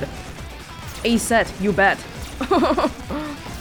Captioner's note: chuckles